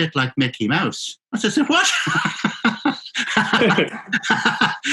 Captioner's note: laughing; both laughing